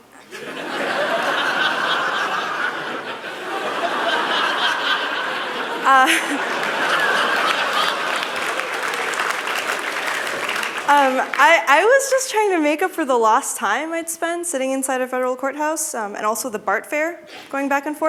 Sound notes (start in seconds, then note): 0.2 laughter; 6.0 applause